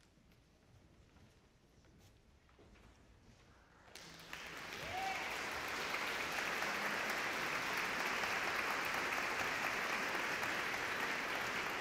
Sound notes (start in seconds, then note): 3.9 audience clapping